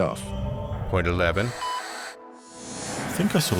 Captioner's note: static